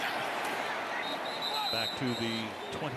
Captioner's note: whistle blowing